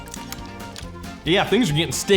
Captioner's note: smacking lips